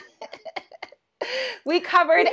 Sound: laughing

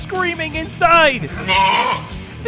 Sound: bleating

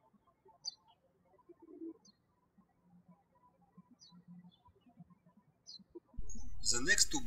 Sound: birds chirping

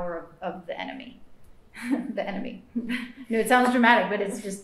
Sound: laughs

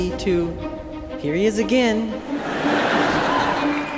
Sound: crowd laughs

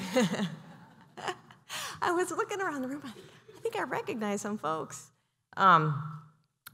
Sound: laughter

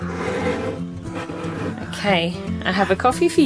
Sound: cup scraping

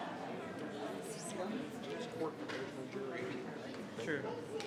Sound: people chattering

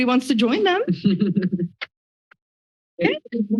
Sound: laughter

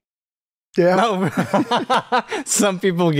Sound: laughter

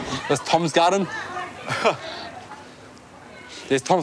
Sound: laughs

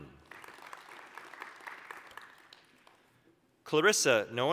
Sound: applause

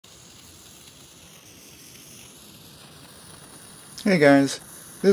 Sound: torch sounds

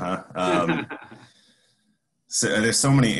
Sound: laughs

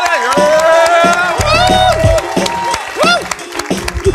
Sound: applause and cheering

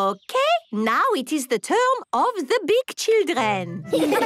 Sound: laughter

